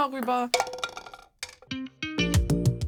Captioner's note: clacking; casual music